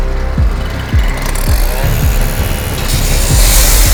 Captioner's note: saw screeching